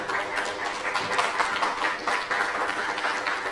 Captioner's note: applause